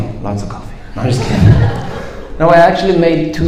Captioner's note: audience laughs